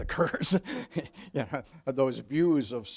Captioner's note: laughing